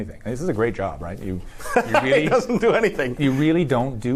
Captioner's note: laughs